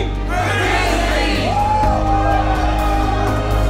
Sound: shouts and cheers

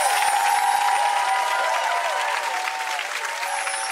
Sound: audience applauding

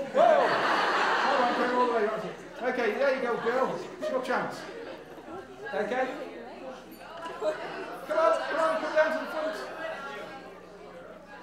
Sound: audience laughs

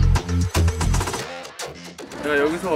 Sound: Scratch

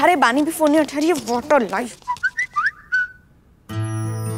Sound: cell phone chimes

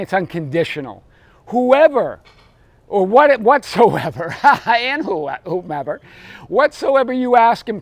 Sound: laughs

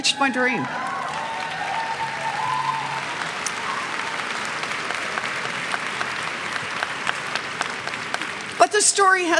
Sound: cheers and clapping

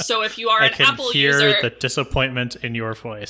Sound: laughs

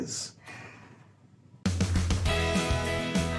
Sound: sighs; bright, upbeat music playing

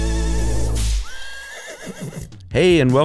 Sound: horse neighing

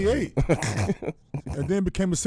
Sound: laughing

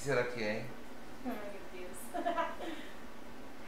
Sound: laughs

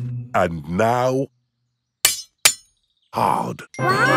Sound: shovel clanks

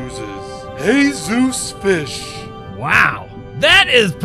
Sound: fancy pronunciation

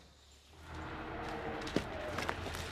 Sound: engine noises

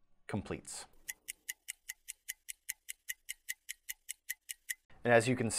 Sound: clock ticking

